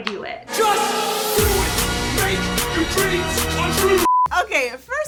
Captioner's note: beep